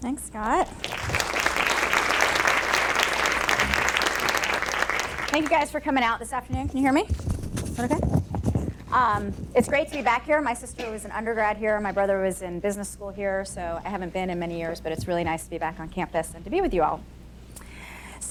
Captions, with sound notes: - Thanks, Scott. (audience applauding) Thank you guys for coming out this afternoon. Can you hear me? (microphone rustling) Is that okay? It's great to be back here, my sister was an Undergrad here and my brother was in Business School here. So, I haven't been in many years but it's really nice to be back on campus and to be with you all.